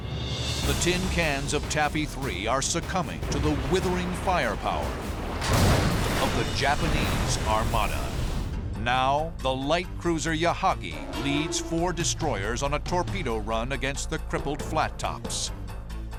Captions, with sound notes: The tin cans of Taffy 3 are succumbing to the withering firepower-- [explosion] --of the Japanese armada. Now, the light cruiser Yahagi leads four destroyers on a torpedo run against the crippled flat tops.